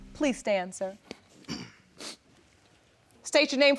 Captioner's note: clears throat